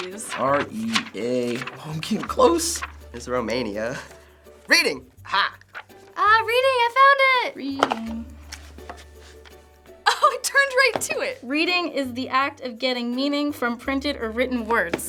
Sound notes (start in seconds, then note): 7.4 singsong